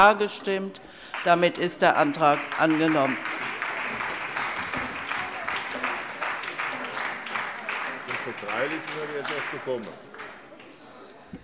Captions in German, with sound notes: Damit ist der Antrag angenommen. [Beifall]